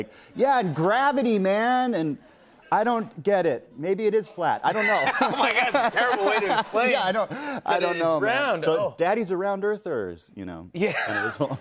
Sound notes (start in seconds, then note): 4.7 laughter